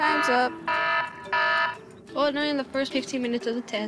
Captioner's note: buzzer sounds